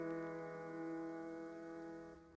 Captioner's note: static buzzing